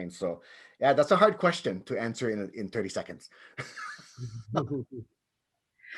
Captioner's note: laughs